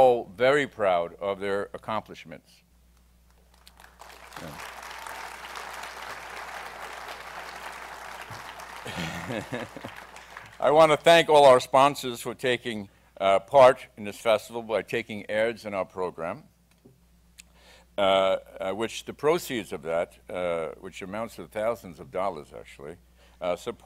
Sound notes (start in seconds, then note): 3.3 applause; 8.7 laughs